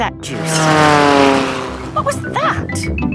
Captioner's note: plane flies